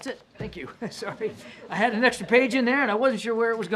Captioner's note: laughter